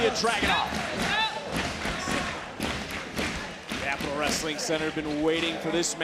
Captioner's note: applause